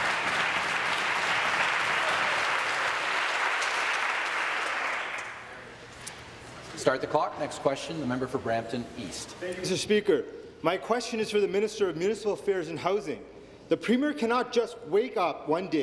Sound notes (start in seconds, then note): 3.2 applause